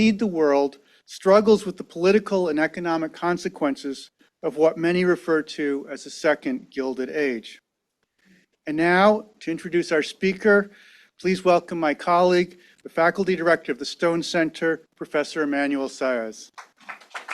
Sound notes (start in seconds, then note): 16.5 audience applause